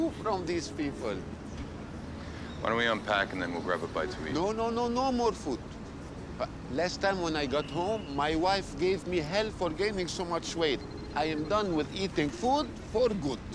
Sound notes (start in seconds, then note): 10.0 phone ringing